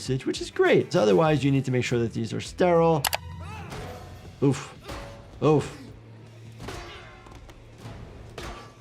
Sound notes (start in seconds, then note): 3.0 mouse clicking; 3.0 officer grunting; 4.5 blows clanging